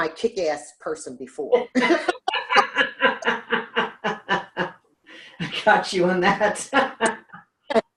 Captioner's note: laughs